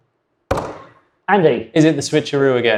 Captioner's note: buzzer sounds